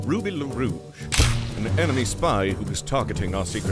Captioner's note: camera shutter clicks